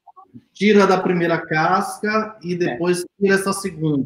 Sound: speaks portuguese

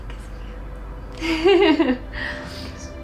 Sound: emma joyfully giggles

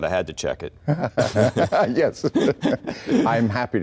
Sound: laughing

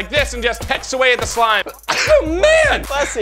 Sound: sneezes

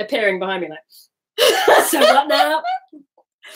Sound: laughing

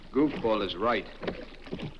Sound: oars thudding; water splashes

